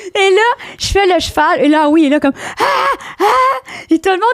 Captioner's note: in french; screams; in french